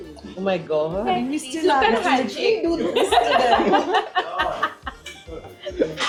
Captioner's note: laughter